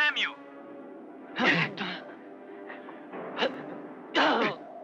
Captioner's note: men grunting